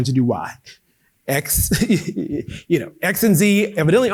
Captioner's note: laughing